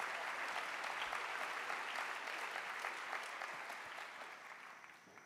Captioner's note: applause